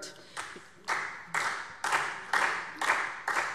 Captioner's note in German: Beifall SPD